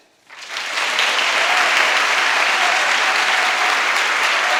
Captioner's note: audience applauding